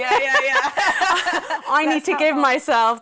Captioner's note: laughing